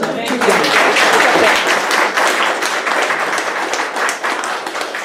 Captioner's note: audience clapping